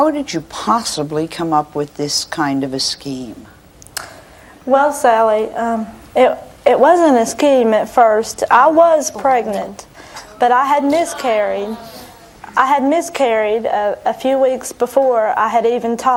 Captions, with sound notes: How did you possibly come up with this kind of scheme? Well, Sally, it wasn't a scheme at first. I was pregnant. But I had miscarried. (audience scowling) I had miscarried a few weeks before I had even talked